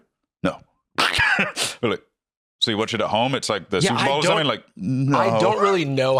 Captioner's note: laughs